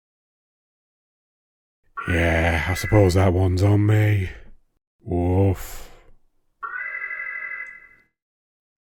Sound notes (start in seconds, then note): 2.0 alarm